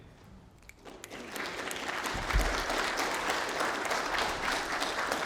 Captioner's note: applause